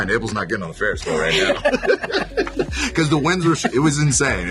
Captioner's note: everyone laughing